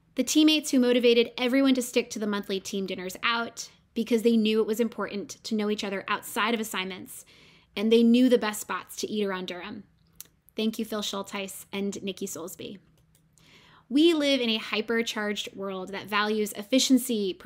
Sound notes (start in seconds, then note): none